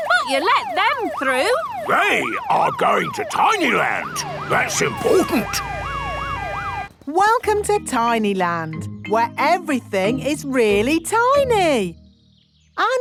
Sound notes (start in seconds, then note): 5.9 sirens wailing